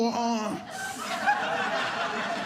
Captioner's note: audience laughing